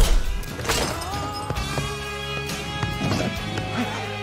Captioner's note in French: blade clangs; clattering; grunts